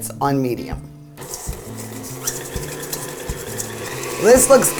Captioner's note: whirring